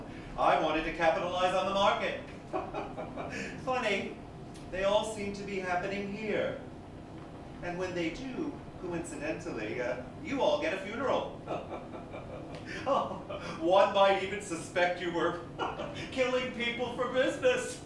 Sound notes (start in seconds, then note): 2.4 Mr. Hughes Chuckles; 11.3 Mr. Hughes Laughs